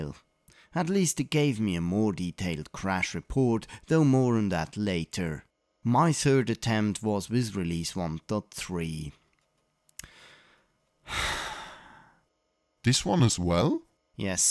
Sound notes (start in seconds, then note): 10.0 sigh